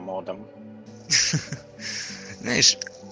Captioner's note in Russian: /смеется по-моддерски/